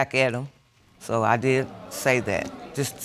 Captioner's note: audience exclaims